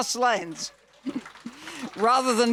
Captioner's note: audience clapping